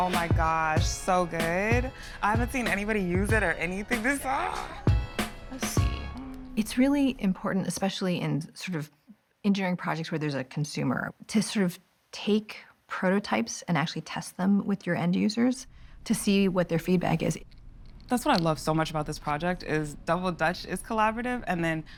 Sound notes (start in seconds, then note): 4.7 exclaims